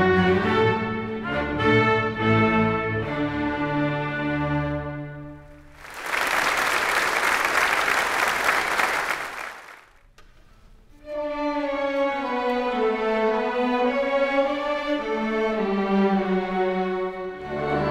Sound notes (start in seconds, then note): 5.6 audience applauds; 10.8 gentle orchestral music